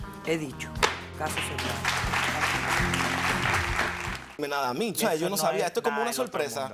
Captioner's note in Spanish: Aplausos